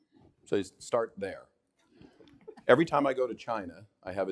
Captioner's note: all laughing